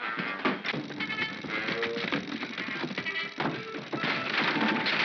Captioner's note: feet scrambling; chattering sound of gears; whimsical music; wood cracking & splintering